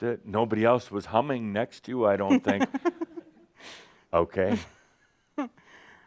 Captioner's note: she chuckles